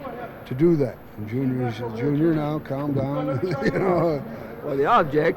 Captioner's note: laugh